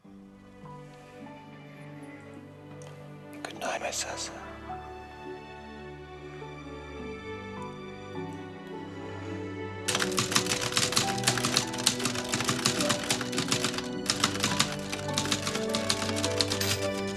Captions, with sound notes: Good night, my Sasa. (light orchestral music) (typewriter keys clacking)